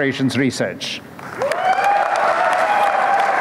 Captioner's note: applause